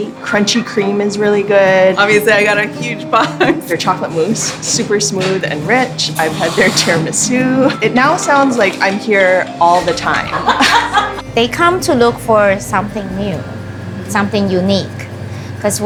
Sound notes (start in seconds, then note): 10.0 people laughing